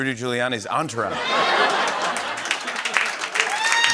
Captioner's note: laughter